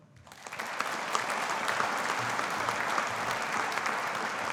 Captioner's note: audience applauding